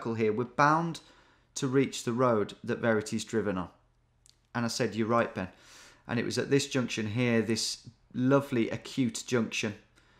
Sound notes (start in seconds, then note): none